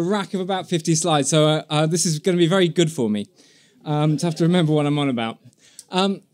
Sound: laughter

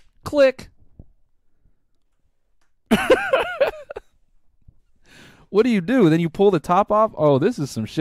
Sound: laughs

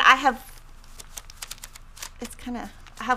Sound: paper rustling

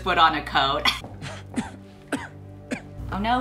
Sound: coughing

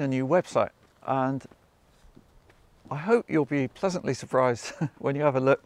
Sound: chuckles

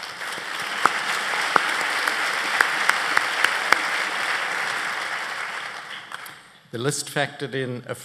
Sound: applause

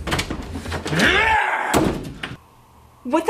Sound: yell

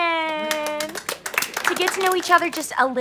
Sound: kids clapping

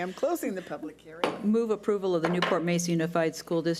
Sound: gavel bangs

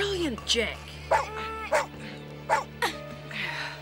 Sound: barking; grunting

